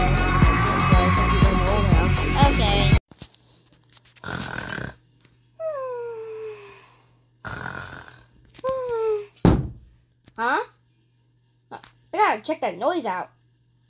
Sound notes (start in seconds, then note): 3.0 snoring; 9.4 bang